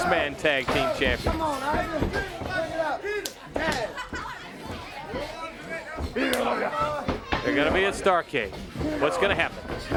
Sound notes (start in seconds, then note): 5.9 crowd chatter; 8.9 crowd chatter